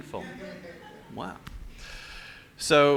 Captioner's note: laughter